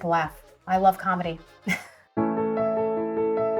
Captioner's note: chuckles